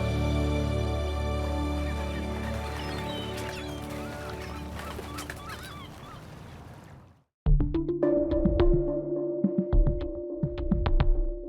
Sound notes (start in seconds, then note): 1.6 seagulls calling